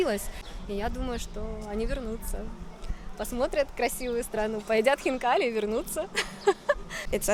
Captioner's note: giggles